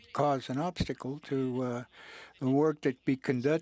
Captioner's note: speaking French